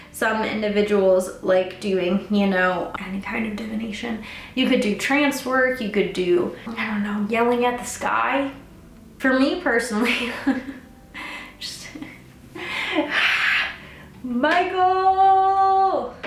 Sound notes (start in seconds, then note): 13.0 hisses